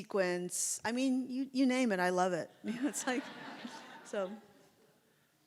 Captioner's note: audience laughs